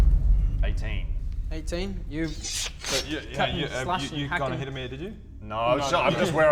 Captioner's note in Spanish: Ruidos de corte